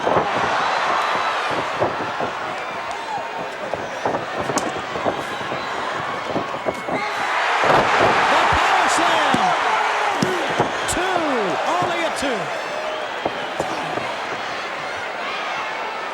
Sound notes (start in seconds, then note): 8.0 crowd cheers; 8.0 mat thuds